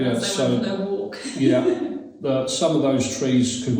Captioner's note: laughs